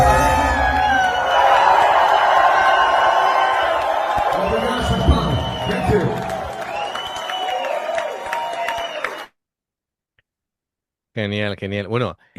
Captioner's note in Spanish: aplausos